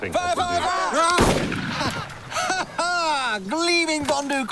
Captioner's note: gunshot